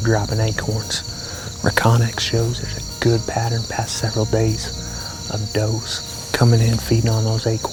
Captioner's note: whispering